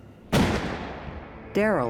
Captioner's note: gunshot